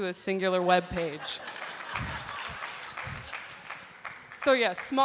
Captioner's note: applause